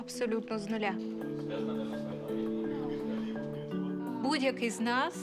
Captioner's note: team chattering